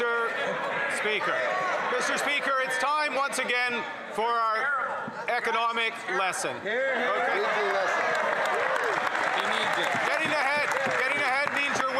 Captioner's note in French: voix de l'interprète